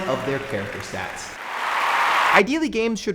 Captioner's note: wild applause and cheering